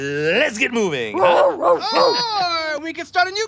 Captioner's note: rose barking